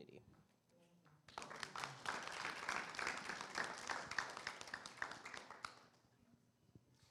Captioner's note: audience applause